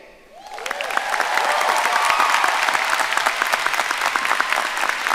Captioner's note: audience cheering and applauding